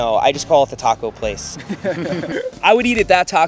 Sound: laughs

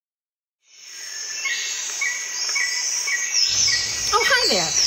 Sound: birds chirping

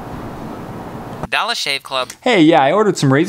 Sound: phone

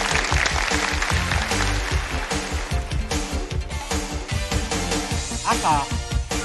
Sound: applause

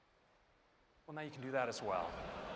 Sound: laughter

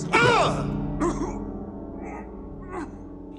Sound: coughs; grunts

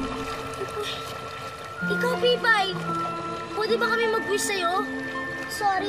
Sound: sighs

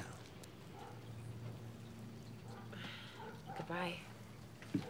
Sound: dog barking

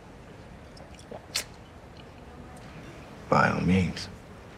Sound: tongue clicks

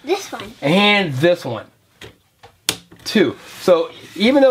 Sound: voiceover

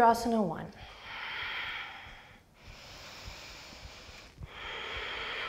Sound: deep breathing

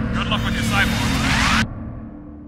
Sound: Static

